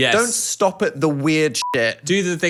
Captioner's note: beep